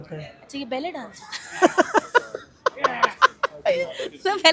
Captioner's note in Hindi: हंसी